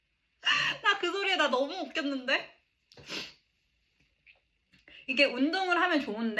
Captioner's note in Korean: 콧방귀